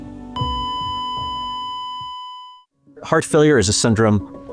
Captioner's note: flatline tone beeps